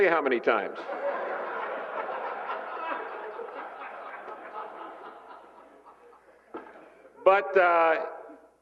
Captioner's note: laughter